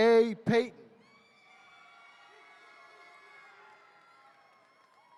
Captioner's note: attendees cheering